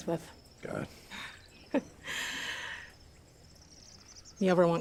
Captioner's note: laughs